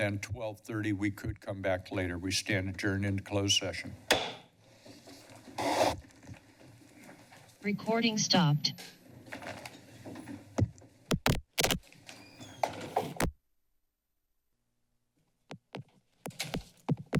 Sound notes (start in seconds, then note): 11.1 pause